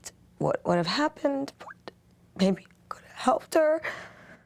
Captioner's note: voice breaking